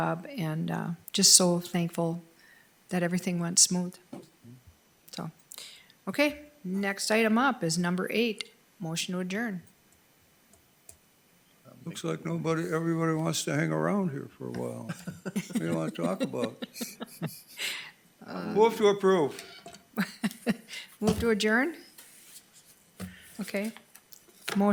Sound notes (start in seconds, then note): 14.6 members chuckle; 20.0 members chuckle